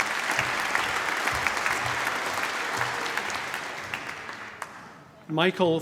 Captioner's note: applause